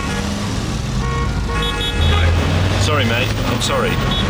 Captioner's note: car horns beeping